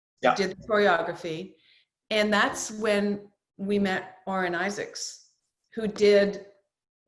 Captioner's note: none